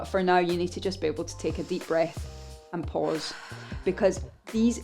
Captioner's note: breathes deeply